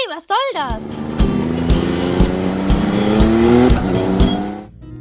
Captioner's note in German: Motorengeräusche; entspannte Musik